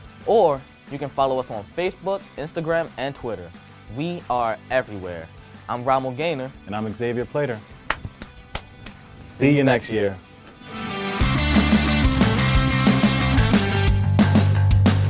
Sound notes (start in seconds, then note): 7.8 claps; 11.4 upbeat rock instrumental